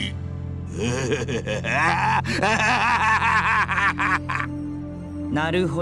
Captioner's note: really long laugh